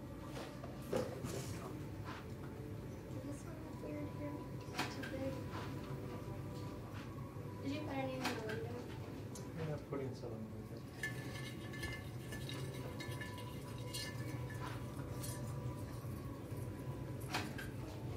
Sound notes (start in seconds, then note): 10.9 ornaments clang